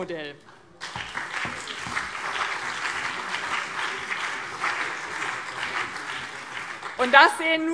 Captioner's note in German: Beifall BÜNDNIS 90/DIE GRÜNEN und CDU